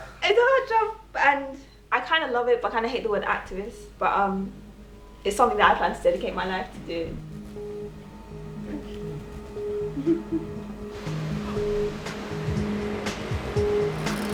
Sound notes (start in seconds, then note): 10.2 laughing